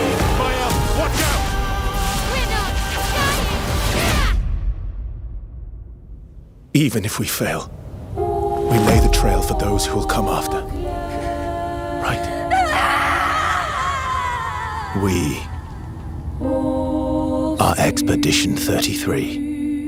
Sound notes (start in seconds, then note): 12.5 screaming